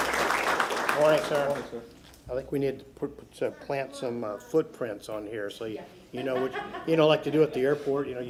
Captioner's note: applause